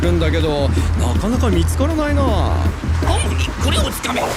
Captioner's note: scoffs